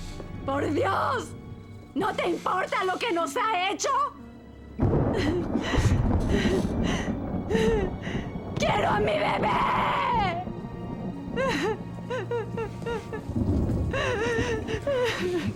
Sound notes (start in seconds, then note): 7.2 gasps; 11.0 sobbing, thunder